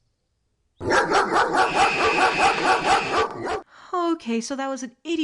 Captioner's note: angry barking and screaming